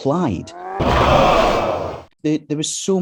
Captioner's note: car crashes